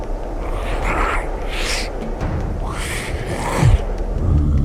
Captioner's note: bear grunting